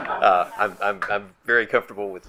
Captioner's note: group laughs